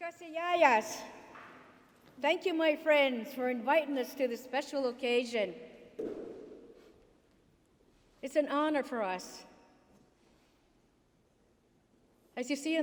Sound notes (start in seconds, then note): 2.9 speaking in foreign language